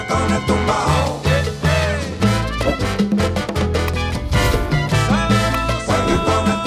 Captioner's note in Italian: Applauso